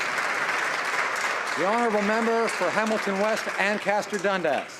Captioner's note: applause